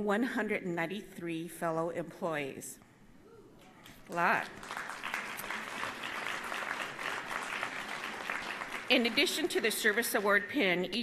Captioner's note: applause